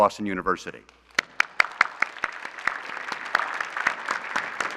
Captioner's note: applause